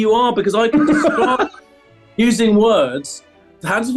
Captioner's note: laughing